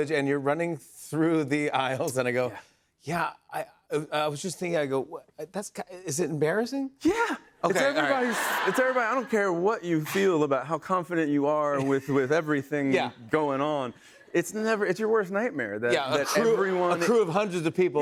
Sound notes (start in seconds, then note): 7.7 laughter